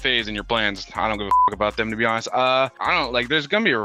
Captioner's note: beep